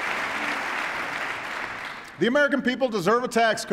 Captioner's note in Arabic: تصفيق